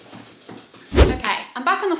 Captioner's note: video swooshing